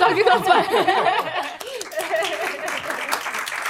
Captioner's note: laughter; applause